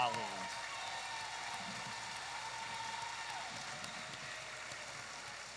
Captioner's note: audience applauding and cheering